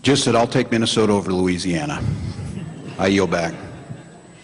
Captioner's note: audience laughs